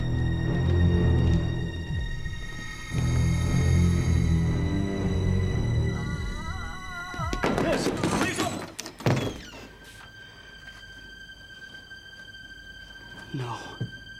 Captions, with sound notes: (woman moaning) Miss, please open! No.